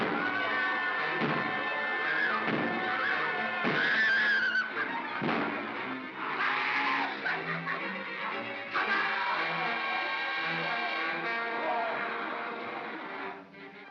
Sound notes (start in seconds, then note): 0.1 suspenseful music; 0.2 Bo Peep screams; 0.2 banging & growling; 6.5 Barnaby yells & laughs; 10.2 growling; 10.2 suspenseful music